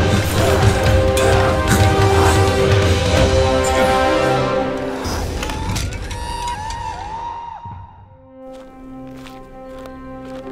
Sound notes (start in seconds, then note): 0.0 loud music; 5.0 skeletons screech